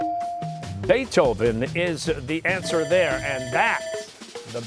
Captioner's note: bell ringing